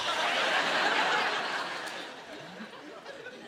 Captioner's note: laughter